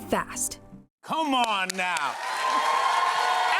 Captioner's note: cheers and applause